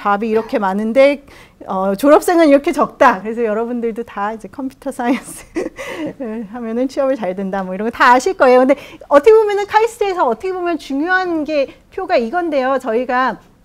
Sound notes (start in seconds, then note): 5.1 laugh